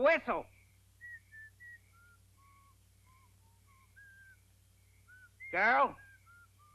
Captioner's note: Orville whistles